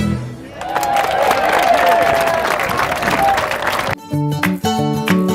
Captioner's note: applause